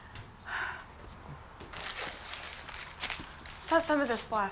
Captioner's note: Laura sighs